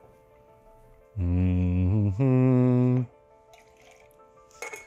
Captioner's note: Robert humming